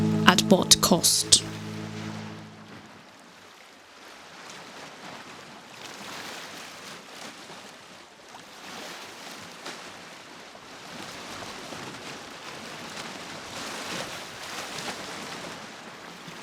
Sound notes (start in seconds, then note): 4.3 soft wave sounds